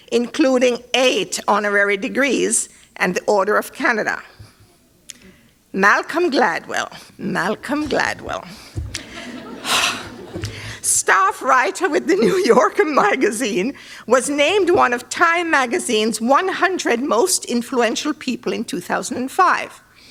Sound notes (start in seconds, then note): 8.9 laughter